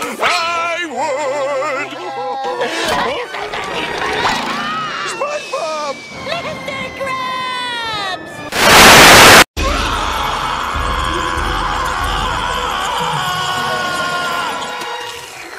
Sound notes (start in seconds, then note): 9.6 screaming